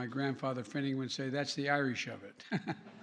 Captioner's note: laughter